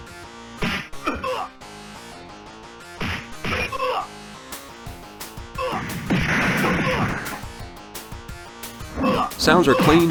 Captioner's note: game sounds